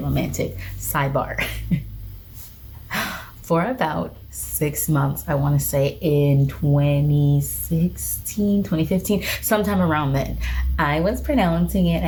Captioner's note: chuckles